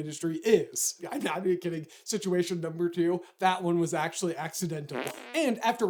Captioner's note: fart